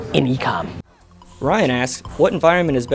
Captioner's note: voiceover